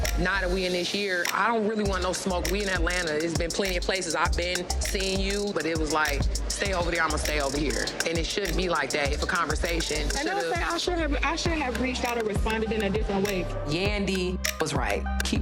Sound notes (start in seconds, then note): none